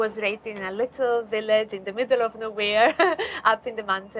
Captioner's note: chuckles